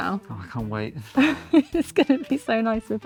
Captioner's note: laughing